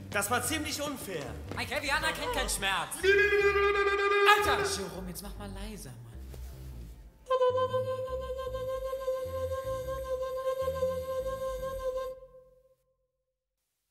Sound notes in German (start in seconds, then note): 3.0 Indianergeheul; 7.1 Indianergeheul leiser